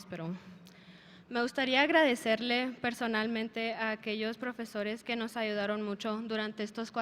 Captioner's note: speaker speaking in a foreign language